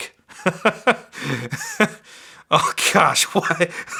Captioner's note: laughs